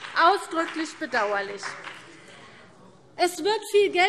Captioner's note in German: Beifall BÜNDNIS 90/DIE GRÜNEN und vereinzelt CDU